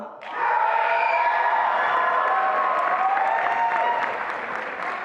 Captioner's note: attendees applauding and cheering